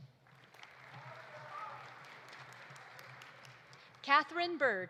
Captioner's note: audience applauding